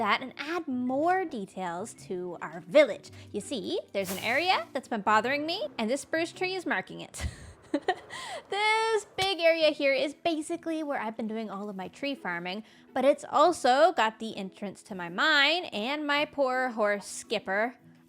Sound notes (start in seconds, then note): 8.0 laughs